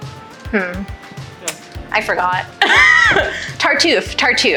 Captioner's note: laughs